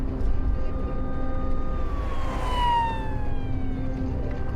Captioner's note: siren wailing